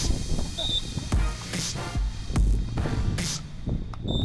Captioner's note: whistle blows